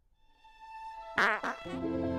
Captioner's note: fart